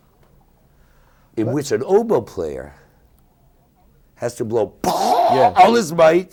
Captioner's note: yelling